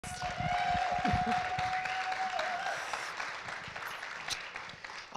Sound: audience cheering

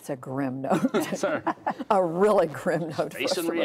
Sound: laughter

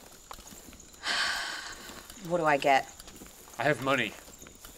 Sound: sighs

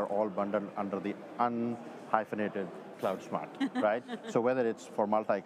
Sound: chuckles

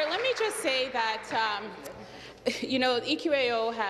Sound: applause

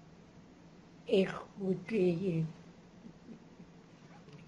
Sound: non-english; chuckles

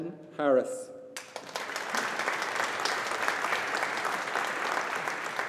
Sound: audience applauding

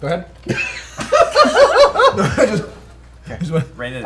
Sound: laughter

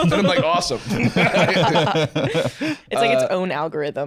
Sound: all laughing

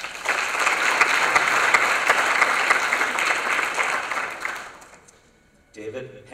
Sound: applause

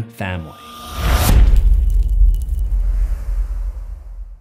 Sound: impact

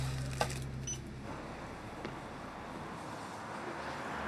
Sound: music subsides; traffic hums

